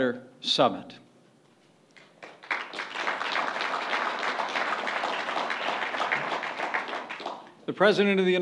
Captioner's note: applause